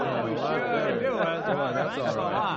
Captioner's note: crowd chattering